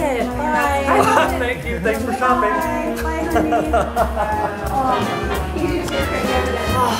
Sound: laughing

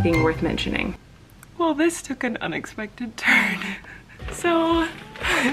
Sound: laughing

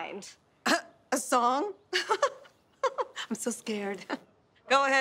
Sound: chuckles; giggling

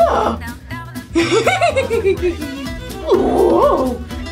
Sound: laughs

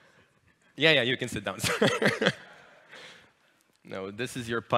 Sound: laughs

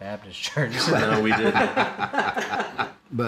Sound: group laughs

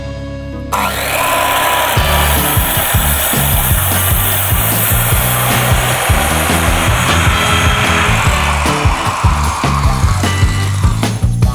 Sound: construction sounds

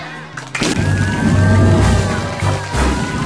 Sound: all cheering

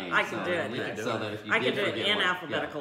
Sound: laughing

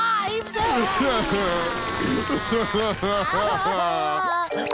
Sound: crying

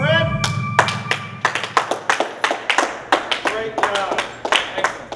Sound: clapping

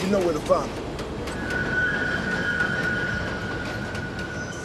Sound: train wheels screeching

